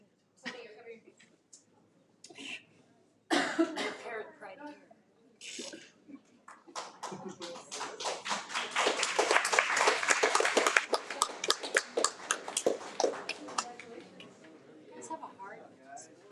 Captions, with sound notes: Some of you are covering. (speaks faintly) (attendees applaud) - Let's have a heart.